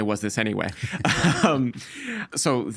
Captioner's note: both laughing